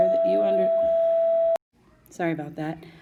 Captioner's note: bell ringing